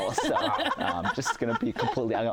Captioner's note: laughter